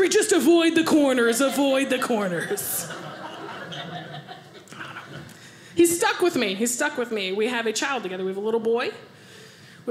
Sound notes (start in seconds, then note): 3.0 audience laughing